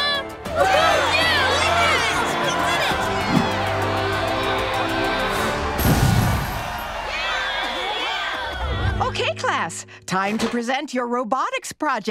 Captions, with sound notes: Way to go, Lincoln! You did it! [cheering] Okay, class, time to present your robotics projects.